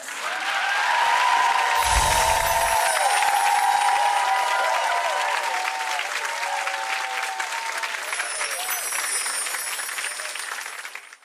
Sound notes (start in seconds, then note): 0.3 audience cheering and clapping; 8.0 chime sound